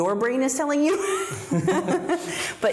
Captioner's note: both laugh